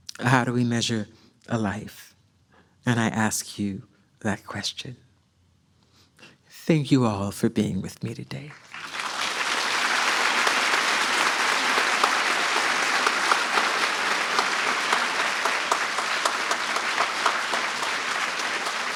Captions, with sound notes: How do we measure a life?" And I ask you that question. Thank you all for being with me today. (audience applauds)